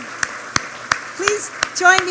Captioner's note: applause